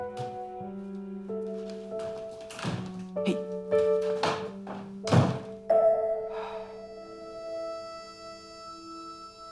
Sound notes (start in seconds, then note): 1.6 door opens; 3.8 door slams; 5.2 piano music